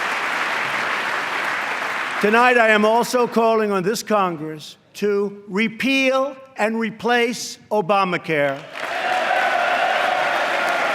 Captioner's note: applause; applause